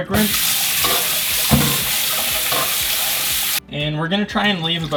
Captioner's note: water running